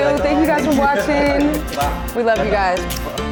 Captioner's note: laughing